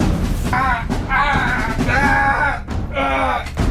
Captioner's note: Brett screaming